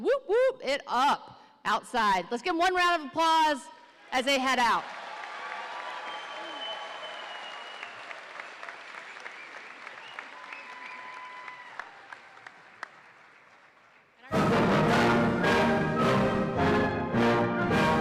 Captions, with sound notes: whoop whoop it up outside. Let's get one round of applause as they head out. (audience applauding and cheering) (triumphant band music)